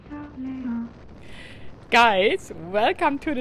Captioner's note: wind howling